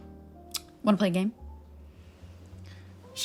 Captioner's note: clicks tongue